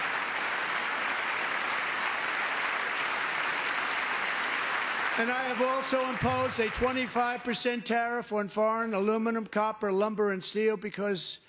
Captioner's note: cheering; applause